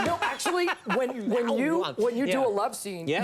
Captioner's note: imitates sloppy make out sounds